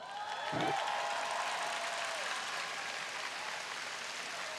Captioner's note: audience applauding